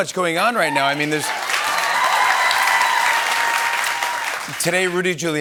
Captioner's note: cheers and applause